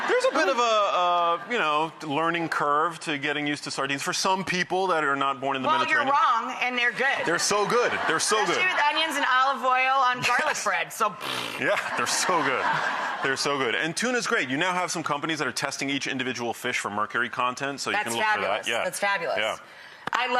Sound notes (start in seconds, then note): 7.3 audience laughing; 11.2 blows raspberry; 11.6 audience laughing